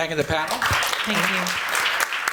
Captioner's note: applause